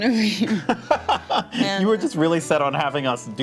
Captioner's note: laughs